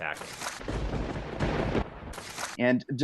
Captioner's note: lightning crashes